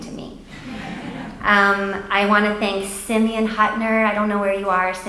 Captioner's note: audience laughs